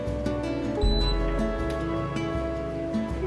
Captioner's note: machine beeping; slow music